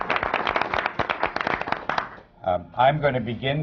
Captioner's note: applause